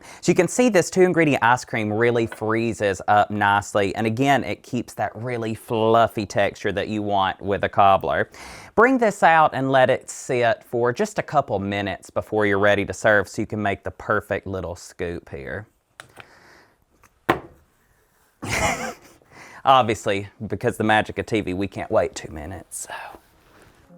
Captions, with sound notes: So you can see this two-ingredient ice cream really freezes up nicely. And again, it keeps that really fluffy texture that you want with a cobbler. Bring this out and let it sit for just a couple minutes before you're ready to serve so you can make the perfect little scoop here. [STRUGGLING] [LAUGHS] Obviously, because of the magic of TV, we can't wait two minutes, so...